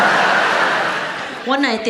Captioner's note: audience laughs